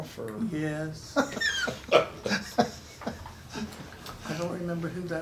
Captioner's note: the men chuckle